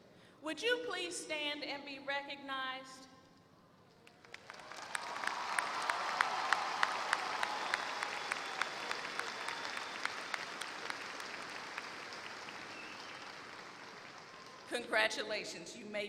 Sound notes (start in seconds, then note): 4.0 applause